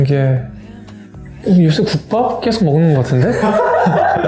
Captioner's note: laugh